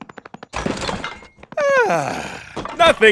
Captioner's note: relaxed sigh